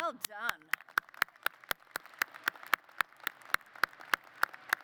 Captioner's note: applause